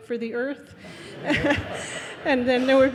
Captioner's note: audience laughing